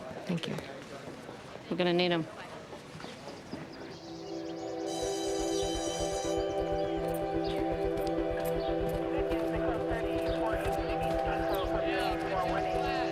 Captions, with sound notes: Thank you. We're going to need him. ( bell ringing )